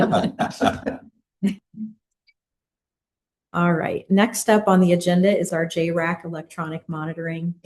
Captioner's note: laughter